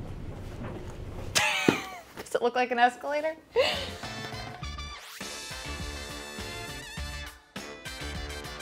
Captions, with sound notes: (laughing) Does it look like an escalator? (laughing) (upbeat music)